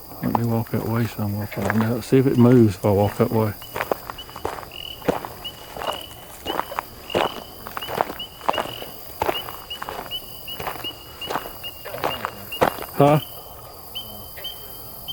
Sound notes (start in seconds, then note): 4.2 footsteps